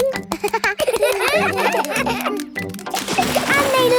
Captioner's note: children laugh